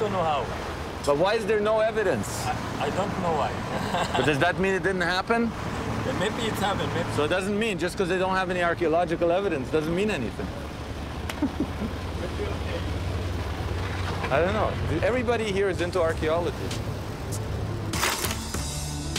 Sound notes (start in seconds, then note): 3.6 laughs